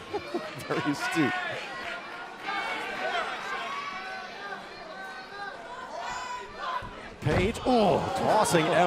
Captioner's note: crowd chatter